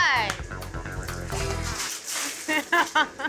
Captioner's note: coals clattering; laughter